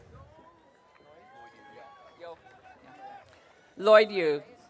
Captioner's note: audience cheering